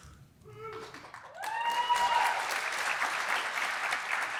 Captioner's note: applause